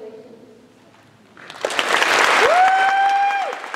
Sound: applause

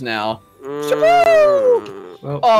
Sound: groans

